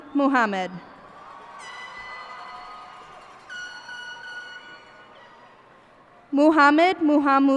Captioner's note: cheers and applause